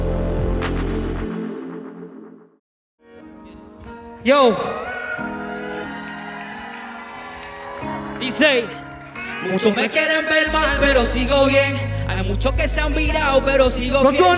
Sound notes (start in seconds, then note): 4.8 crowd cheering; 9.5 sing in foreign language